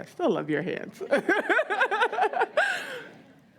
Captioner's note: laughs